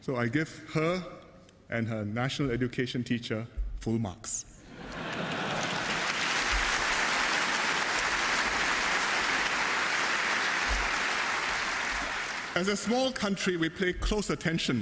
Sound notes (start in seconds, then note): 4.6 laughter and applause